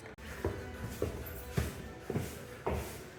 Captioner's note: footsteps